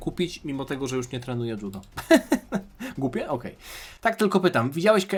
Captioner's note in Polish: śmiech